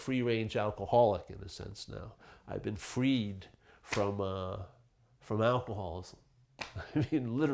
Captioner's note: chuckling